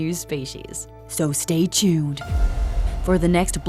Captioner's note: dramatic voice